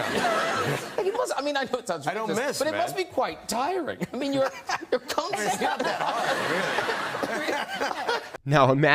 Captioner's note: audience laughing